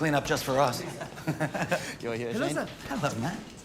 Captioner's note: laughs